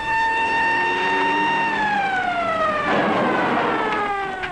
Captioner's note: engine roaring